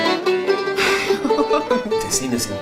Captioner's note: laughs